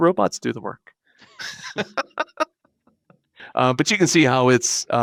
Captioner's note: laughing